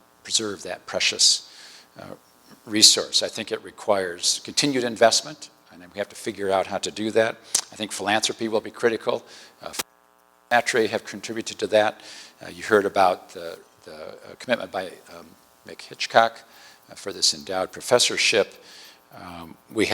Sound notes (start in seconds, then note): 10.5 distortion